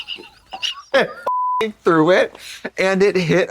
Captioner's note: beep